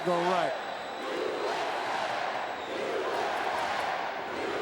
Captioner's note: crowd chanting